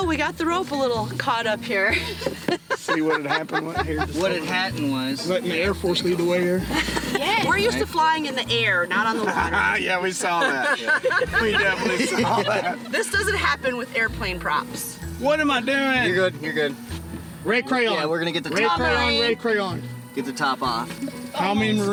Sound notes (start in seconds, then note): 1.8 laughs; 12.8 laughs